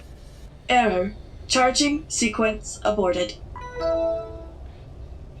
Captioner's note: Windows Vista log off sound